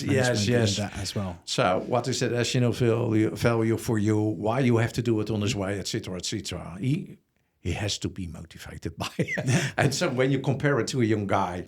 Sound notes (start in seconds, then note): 9.0 laughs